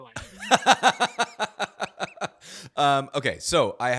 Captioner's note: laughs